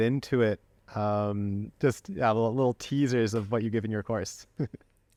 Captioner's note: laughter